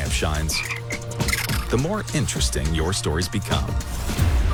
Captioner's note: ribbit, chattering